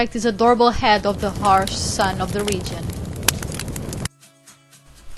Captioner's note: burning sound effect